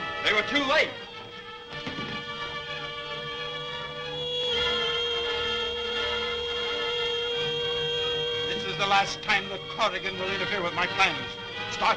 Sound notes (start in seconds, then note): 2.1 Vol Plane whizzes; 2.1 thrilling music